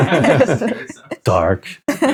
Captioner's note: laughing